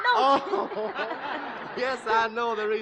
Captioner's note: laughs